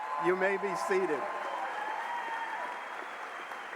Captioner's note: applause